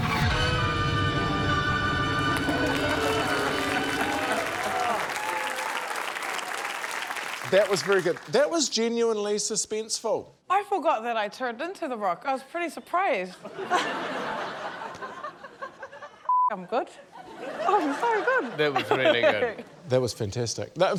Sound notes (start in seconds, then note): 0.2 music swells dramatically; 2.3 laughter, cheering, applause; 13.3 laughter; 17.3 laughs